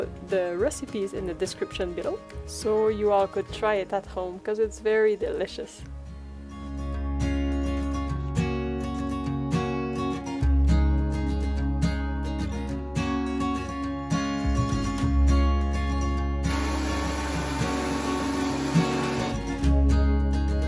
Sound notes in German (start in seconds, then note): 16.4 Geräusch des Mixers